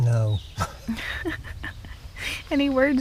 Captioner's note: laughter